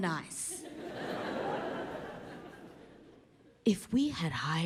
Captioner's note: audience laughs